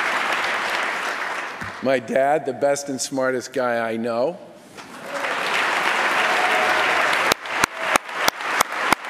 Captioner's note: applause